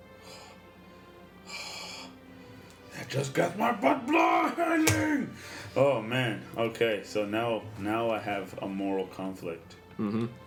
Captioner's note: sighs